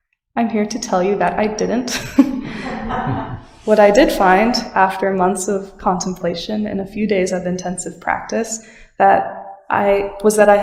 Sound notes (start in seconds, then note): 1.9 laughter in the sangha